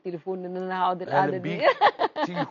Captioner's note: laughs!